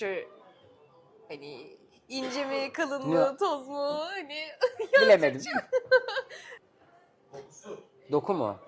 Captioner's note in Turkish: kahkaha